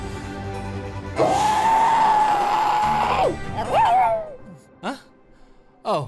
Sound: screaming

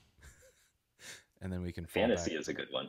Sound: laughs

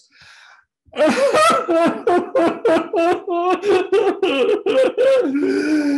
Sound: crying Sound

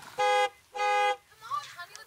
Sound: car horn honking

